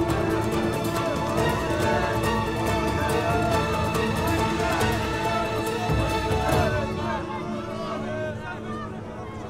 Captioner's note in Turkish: Müzik - Gerilim; Kalabalık bağrışma sesleri